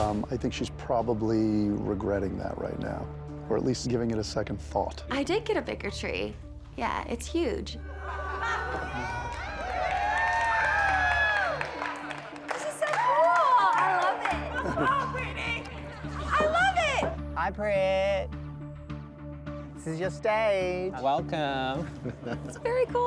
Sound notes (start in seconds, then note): 8.0 laughter, cheering